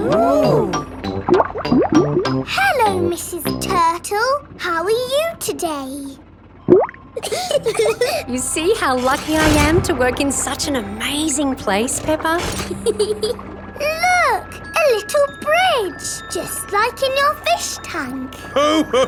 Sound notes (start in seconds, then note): 0.0 bubbling; 6.6 bubbles; 7.2 laughing; 12.6 peppa giggles; 18.4 laughs